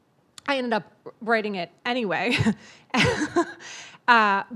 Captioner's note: laughs